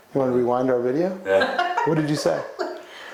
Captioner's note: laughing